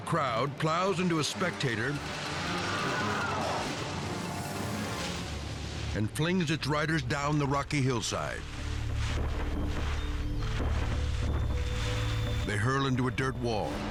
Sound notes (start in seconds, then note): 2.8 person screams; 8.6 bodies thudding; 13.6 intense music